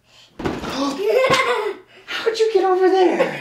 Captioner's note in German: Gelächter